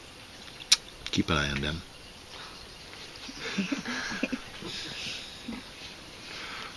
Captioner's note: laughter